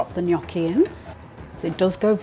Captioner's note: sizzle